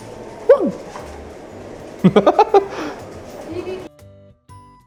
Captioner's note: laughs